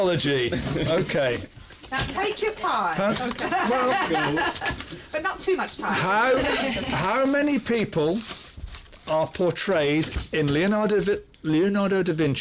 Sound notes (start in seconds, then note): 3.0 laughs; 6.2 laughter